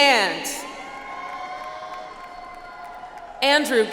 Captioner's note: audience applauds